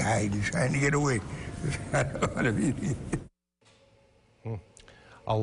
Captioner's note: laughs